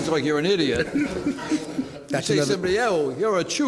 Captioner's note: laughter